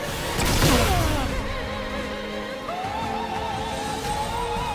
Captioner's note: fire exploding